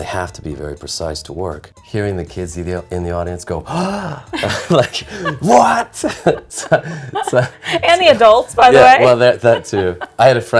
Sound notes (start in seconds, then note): 3.6 gasps; 3.8 both laughing; 9.8 laughs